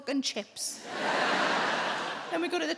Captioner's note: audience laughing